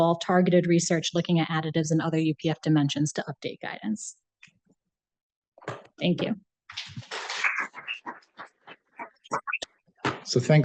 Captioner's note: applause